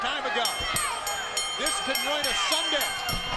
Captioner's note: bell ringing